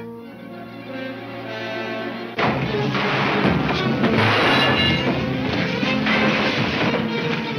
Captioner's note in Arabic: موسيقى مشوقة; إطلاق نار